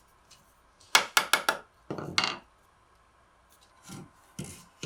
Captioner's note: hammer tapping